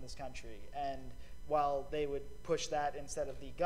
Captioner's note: none